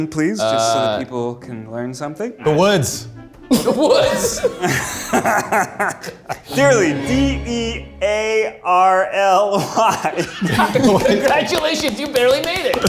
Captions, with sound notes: - Uh- - Just so the people can learn something. - The woods. - The woods. (laughs) - (laughing) Dearly, D-E-A-R-L-Y. (laughs) - Congratulations, you barely made it.